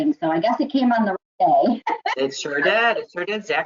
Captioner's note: laughs